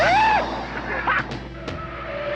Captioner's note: gunshot; cheering; tires squealing